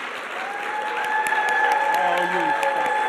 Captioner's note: attendees clapping and cheering